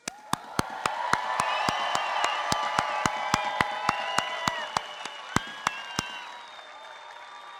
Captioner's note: applause